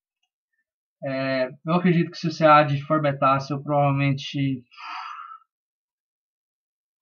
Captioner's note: sigh